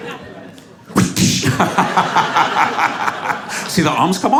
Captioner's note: laughs; mimics whiplash